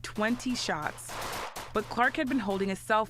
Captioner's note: gunfire